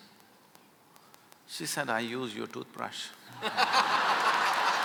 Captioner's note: laughter